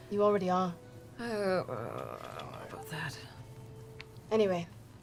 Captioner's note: groans